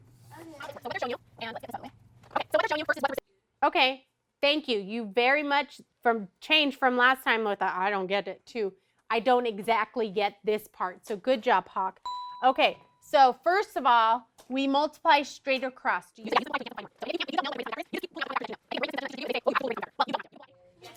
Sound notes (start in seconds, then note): 12.0 ding